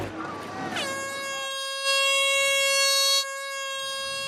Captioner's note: horn blaring